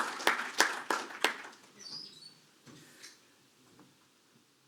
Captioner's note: applause